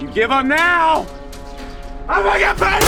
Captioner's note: gun firing; suspenseful music